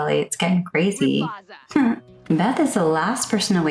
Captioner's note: laughing at self